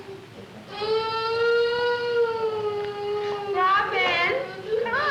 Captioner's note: crying